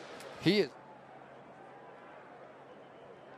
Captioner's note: audio out